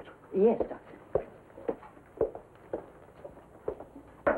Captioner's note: doctor's footsteps